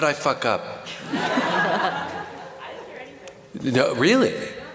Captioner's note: laughter